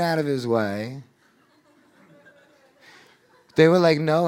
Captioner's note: audience laughing